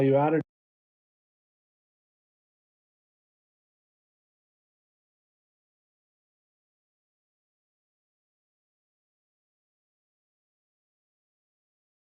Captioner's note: no sound